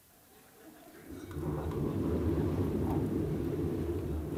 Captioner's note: laughter, noises